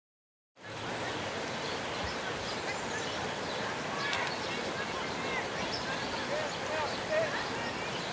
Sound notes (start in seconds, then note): 0.6 sound of river waves; 4.1 children talking in the background; 7.1 birds singing